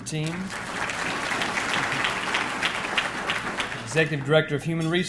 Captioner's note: audience clapping